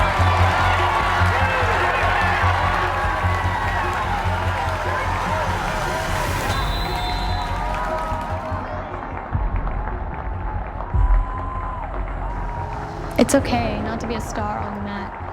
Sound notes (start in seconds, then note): 5.2 whistle blows; 8.3 audience cheers and applauds; 8.3 gentle suspenseful music